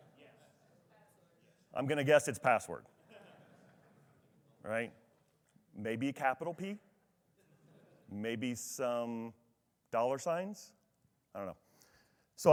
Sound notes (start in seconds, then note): 3.0 attendee laughs